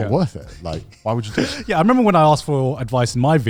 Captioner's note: chuckles